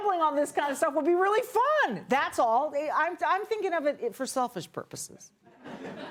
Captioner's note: laughter